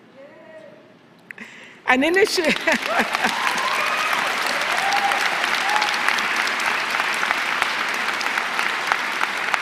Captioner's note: applause